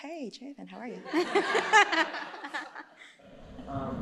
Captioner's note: laughter